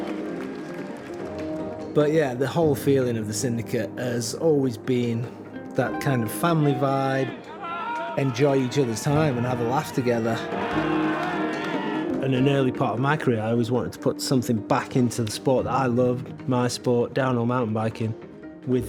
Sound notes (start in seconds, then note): 10.9 cheering